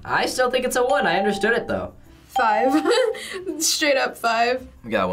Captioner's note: chuckles